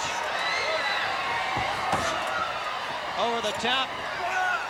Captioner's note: crowd cheers